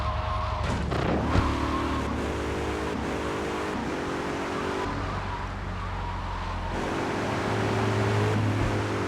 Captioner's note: tires screeching